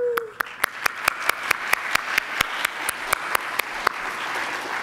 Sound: attendees applauding

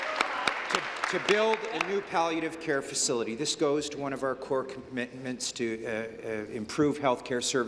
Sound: applause

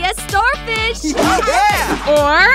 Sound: girl laughs

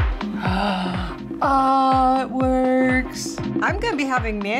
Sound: gasps

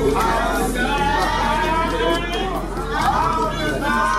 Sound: all chattering

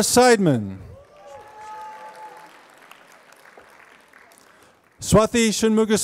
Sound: applause

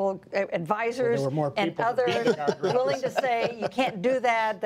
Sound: laughter

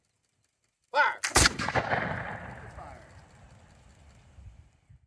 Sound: sounds of muskets firing!

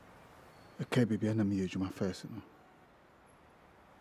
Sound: traffic noise; in Twi

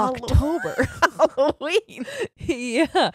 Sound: both laughing

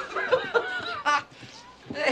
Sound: Lydia laughing

